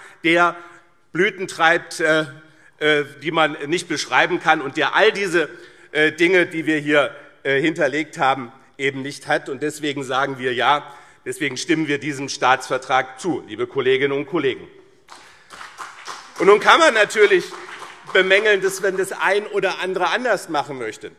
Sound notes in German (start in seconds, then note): 15.0 Beifall BÜNDNIS 90/DIE GRÜNEN und CDU